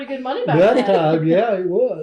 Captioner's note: laughs